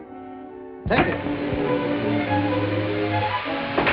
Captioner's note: whooshing